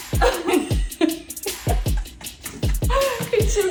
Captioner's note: laughs